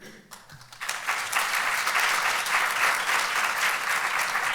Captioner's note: applauds